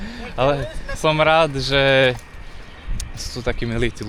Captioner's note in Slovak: smiech